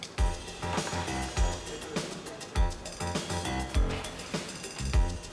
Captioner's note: pan taps and shinks